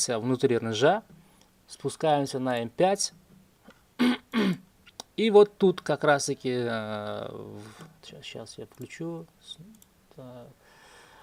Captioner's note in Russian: откашливается